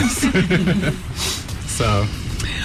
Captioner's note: laughing